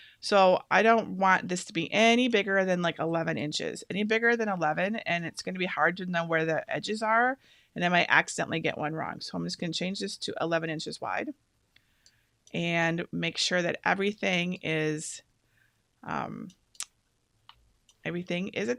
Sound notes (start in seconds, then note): none